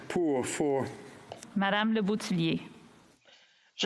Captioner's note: speaking French